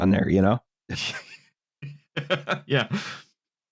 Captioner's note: laughs quietly